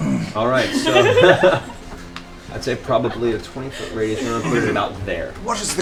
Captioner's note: laughs; Tiberius voice